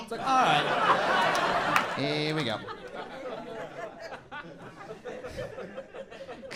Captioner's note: audience chuckles